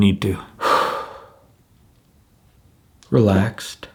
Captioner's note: exhales